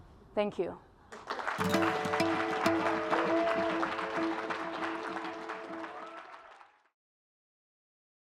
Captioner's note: applause